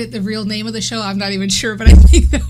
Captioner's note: laughs